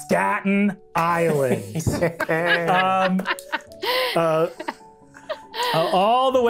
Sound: players laughing

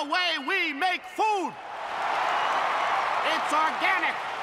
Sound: cheers and applause

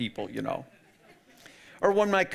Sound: audience laughing

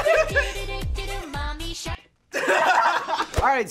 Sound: all laugh

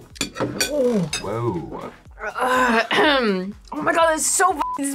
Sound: clears throat

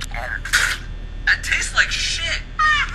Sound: spits

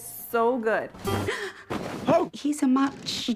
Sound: tense piano music; woman gasps

